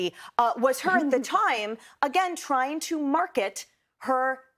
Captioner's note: laughs